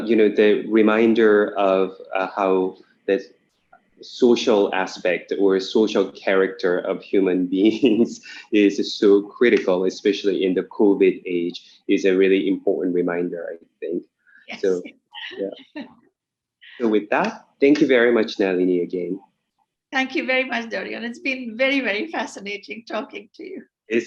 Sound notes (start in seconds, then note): 14.5 chuckles